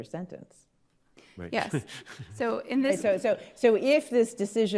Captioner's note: laughs